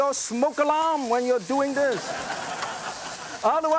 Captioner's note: audience laughs